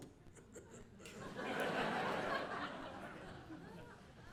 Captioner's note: audience laughing